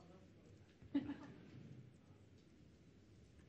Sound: laughs

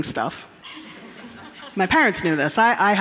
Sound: audience members chuckling

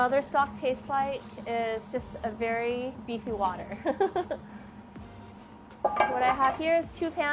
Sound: laughs

